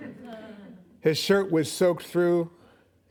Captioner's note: laughing